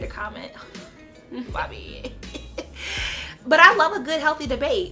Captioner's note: laughs